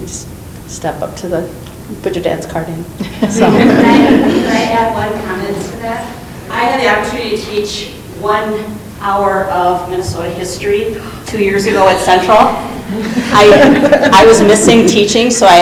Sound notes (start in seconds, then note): 3.0 group laughing